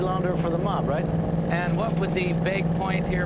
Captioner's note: none